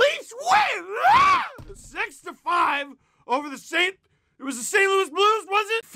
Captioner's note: scream